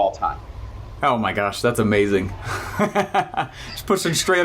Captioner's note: chuckles